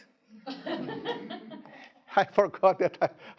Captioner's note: students laughing